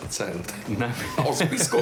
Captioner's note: laughs